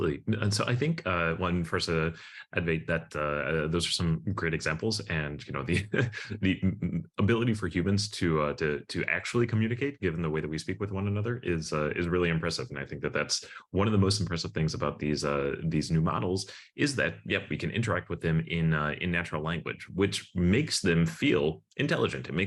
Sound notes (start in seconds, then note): 5.5 chuckles